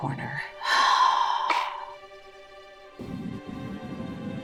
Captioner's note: sighs